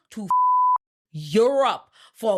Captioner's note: beep